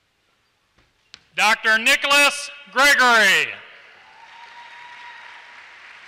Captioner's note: applause